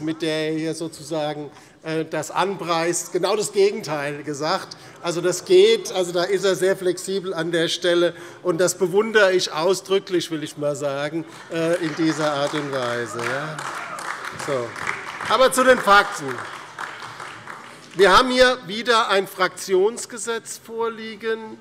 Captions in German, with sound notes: mit der er das hier sozusagen anpreist, das genaue Gegenteil gesagt. An dieser Stelle ist er sehr flexibel, und das bewundere ich in dieser Art und Weise ausdrücklich. [Heiterkeit und Beifall DIE LINKE und vereinzelt SPD] Zu den Fakten. Wir haben wieder ein Fraktionsgesetz vorliegen.